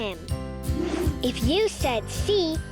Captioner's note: air whooshing